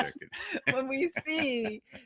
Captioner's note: laughing